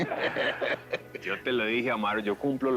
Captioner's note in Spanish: Risas